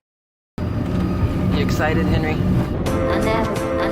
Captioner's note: sound of airplane